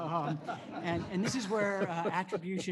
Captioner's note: laughter